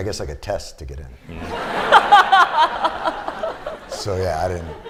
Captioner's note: laughter